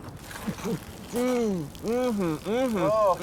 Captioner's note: gas pouring out